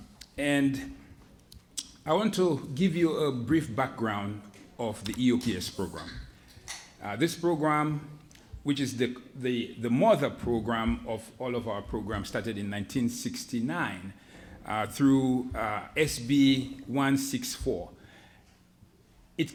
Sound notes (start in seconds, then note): none